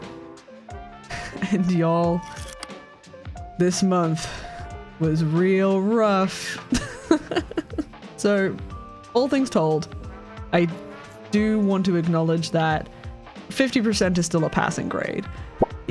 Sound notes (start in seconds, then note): 4.2 sigh; 6.7 chuckles